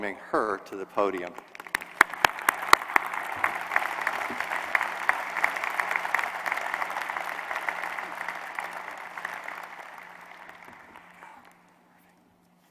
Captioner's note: applause